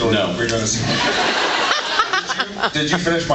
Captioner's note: laughs